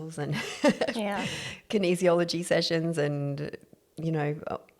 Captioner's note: laugh